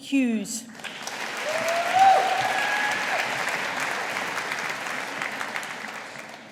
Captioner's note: audience applauding